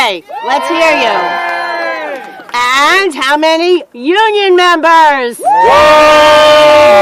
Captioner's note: cheering; cheering